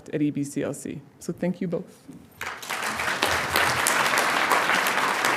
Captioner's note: audience applauding